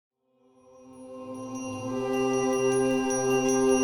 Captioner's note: bell chiming